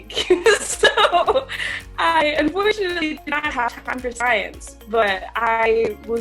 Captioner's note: laughs